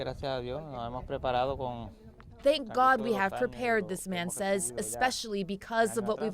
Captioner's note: speaking spanish